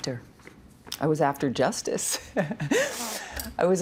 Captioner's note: laughing